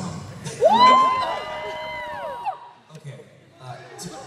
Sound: cheering

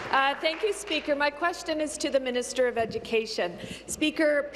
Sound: applause

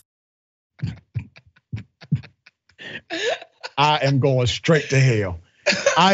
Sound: laugh

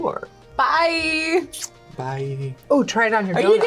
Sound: kisses

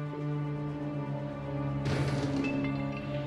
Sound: thudding

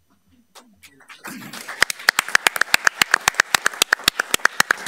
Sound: all applauding

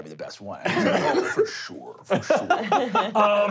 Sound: coughing; laughing

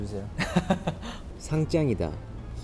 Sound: laughing

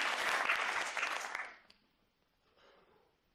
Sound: applause

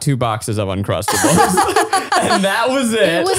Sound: laughs

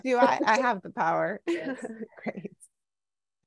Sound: laughs

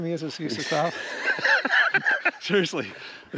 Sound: both laughing

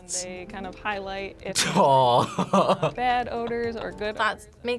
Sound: laughs

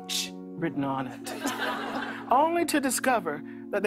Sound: laughter

